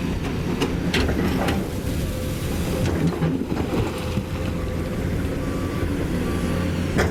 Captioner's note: engine Rev